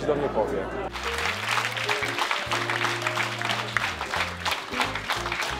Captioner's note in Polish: oklaski